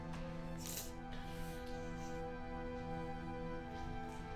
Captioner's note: Rebecca sniffing